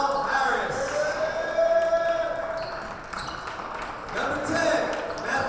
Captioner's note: clapping and cheering